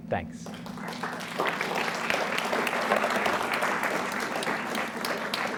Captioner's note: audience applauds